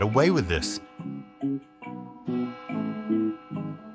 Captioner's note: bell tolls